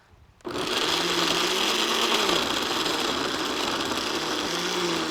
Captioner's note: blender whirring